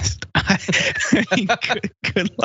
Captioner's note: laugh